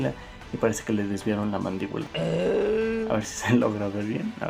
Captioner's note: moan of the rat boy